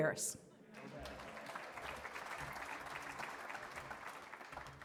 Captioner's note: applause